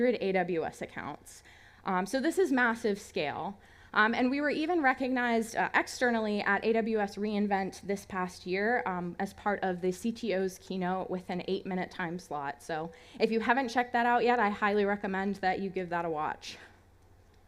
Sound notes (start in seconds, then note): none